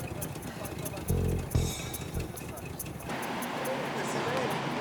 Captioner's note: car engine rumbling